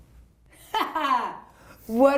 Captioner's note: laughing